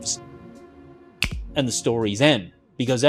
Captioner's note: fingers snapping